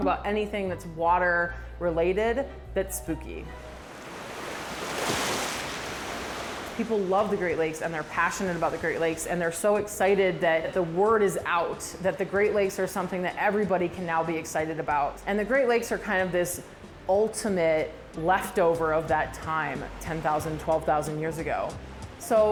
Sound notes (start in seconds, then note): 3.6 waves crashing